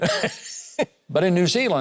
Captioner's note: person laughs